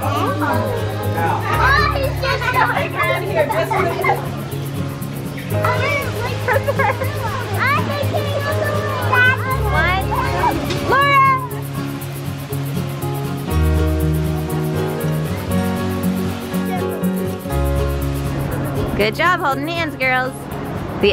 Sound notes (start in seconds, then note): 0.0 playful instrumental music; 0.3 kids chattering and giggling; 12.1 water splashing; 15.1 playful instrumental